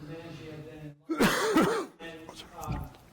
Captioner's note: loud cough